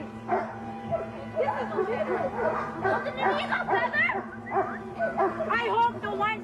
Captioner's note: dogs barking drowning out protestors